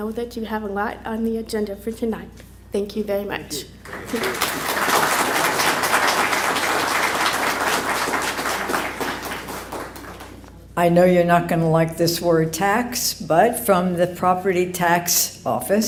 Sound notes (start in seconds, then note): 3.8 applause